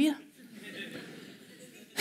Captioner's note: laughter